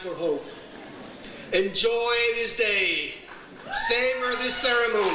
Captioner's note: audience cheers